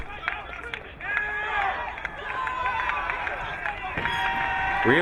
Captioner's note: crowd cheering